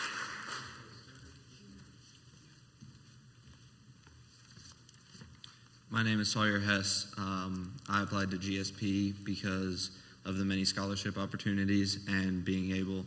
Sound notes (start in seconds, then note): 3.3 footsteps